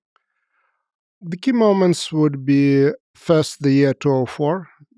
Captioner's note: speaks foreign language